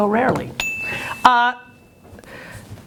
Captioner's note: ding